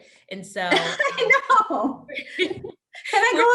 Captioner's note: laughs